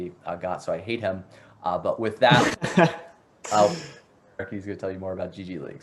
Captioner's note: laughs